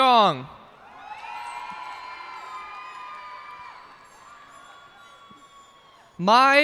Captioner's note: cheers and applause